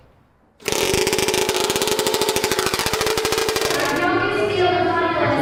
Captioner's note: chainsaw engine revs